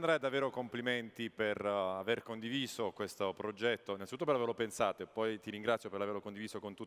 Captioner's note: speaking italian